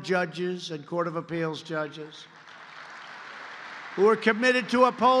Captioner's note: applause